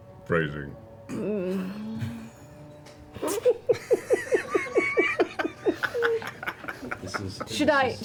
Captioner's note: all laugh